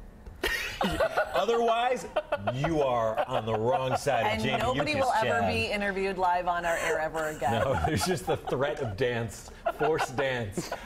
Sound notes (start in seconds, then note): 5.0 laughter